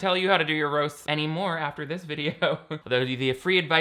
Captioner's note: laughs